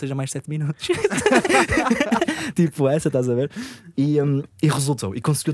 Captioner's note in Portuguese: risos